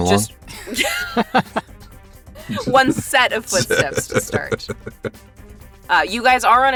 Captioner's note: chuckle; chuckles